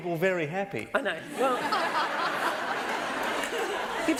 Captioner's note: laughter